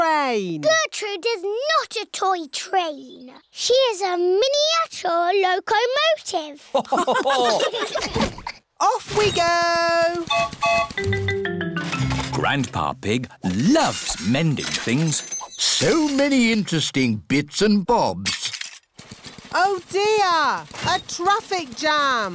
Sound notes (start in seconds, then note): 6.7 laughter; 10.2 whistle blows